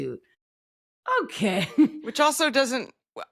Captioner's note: laughs